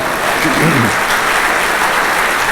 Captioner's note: applause